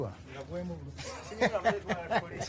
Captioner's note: laughing